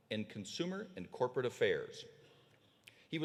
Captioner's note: none